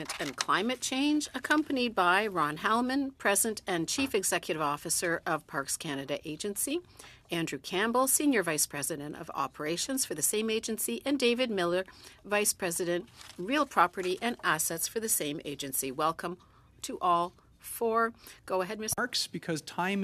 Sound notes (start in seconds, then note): 0.5 speaking French